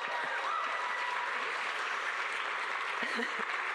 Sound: all laugh

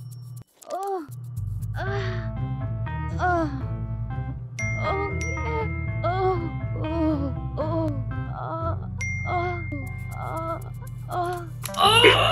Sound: moans

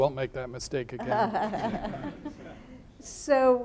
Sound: laughing

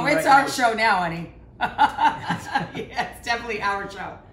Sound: laughs

